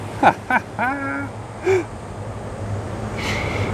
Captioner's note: laughs